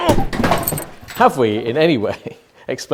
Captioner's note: clattering